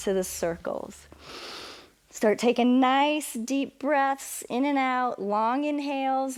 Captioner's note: inhales